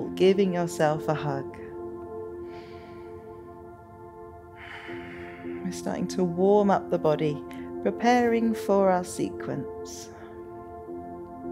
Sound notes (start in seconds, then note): 2.6 inhales; 4.6 exhales